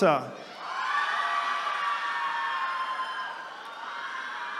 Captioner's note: attendees cheering